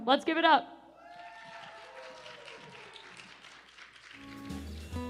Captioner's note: cheers and applause